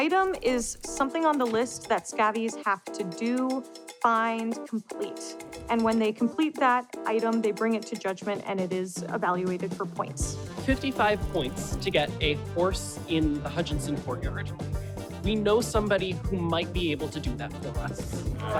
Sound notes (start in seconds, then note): none